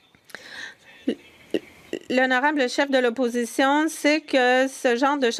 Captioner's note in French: voix de l'interprète